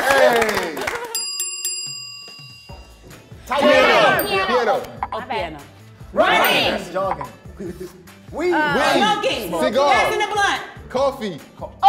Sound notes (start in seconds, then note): 0.0 they clap; 1.2 bell dings; 4.4 bell dings; 6.9 bell dings